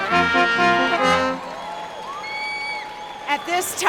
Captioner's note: applause and Cheering